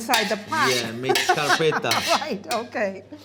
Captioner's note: speaking italian